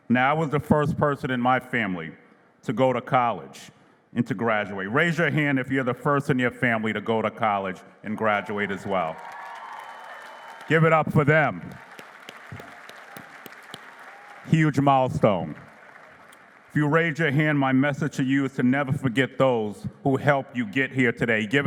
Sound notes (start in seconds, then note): 9.7 applause; 11.6 clapping